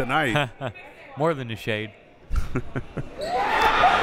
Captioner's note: laughing